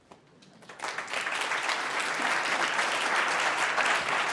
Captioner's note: audience clapping